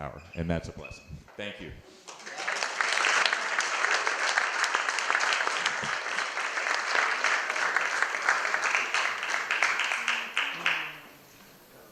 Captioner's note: applause